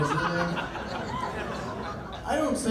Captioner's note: laughter